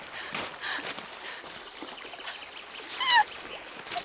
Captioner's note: sobbing